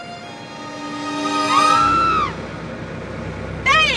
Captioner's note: Betty screams